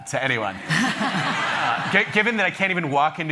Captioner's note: laughter